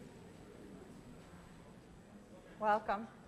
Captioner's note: general chatter